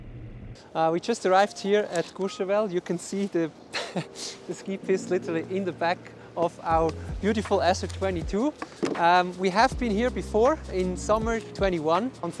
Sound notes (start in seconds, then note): 3.7 chuckles